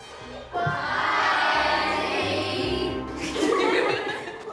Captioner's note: class giggles